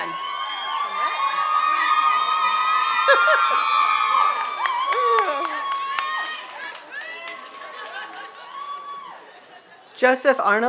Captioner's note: applause